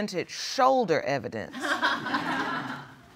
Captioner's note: audience laughing